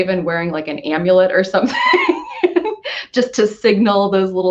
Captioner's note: laughs